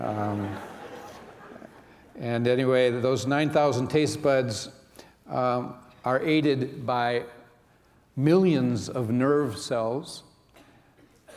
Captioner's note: laughter